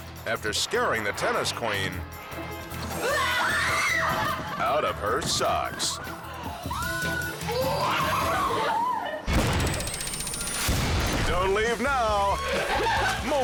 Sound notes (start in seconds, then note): 3.0 screams; 7.0 suspenseful music continues; 9.5 countdown squeals